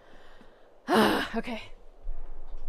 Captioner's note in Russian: вдох